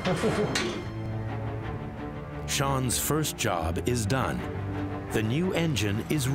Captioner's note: laughing